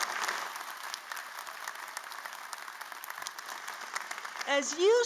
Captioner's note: applause